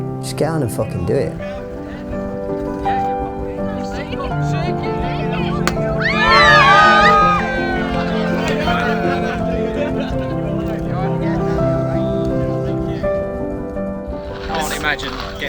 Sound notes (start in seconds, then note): 2.9 uplifting piano; 5.9 screaming; 7.7 cheering; 10.7 laughing